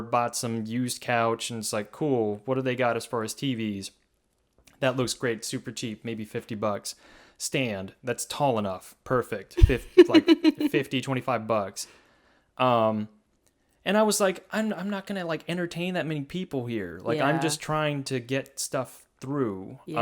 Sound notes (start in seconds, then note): 9.6 laughs